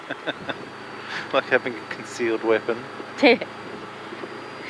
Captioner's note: laughs